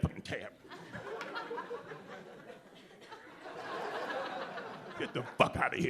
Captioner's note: audience laughing